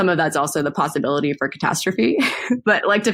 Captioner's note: laughs